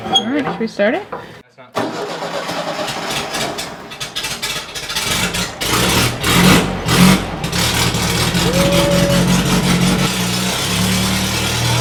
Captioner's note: engine starts